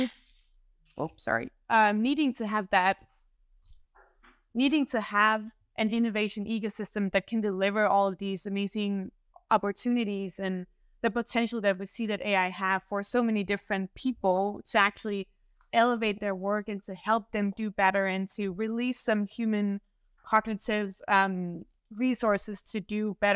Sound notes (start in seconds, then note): 0.6 mic clatters